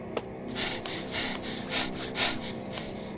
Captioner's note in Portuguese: Ofegante Louis